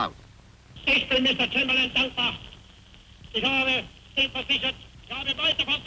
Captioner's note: Hitler speaking German